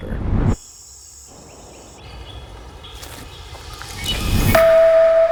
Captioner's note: insects buzzing; birds chirping; musical tone rings